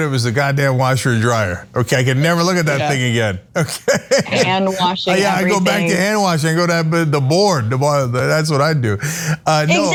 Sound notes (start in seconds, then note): 3.6 laugh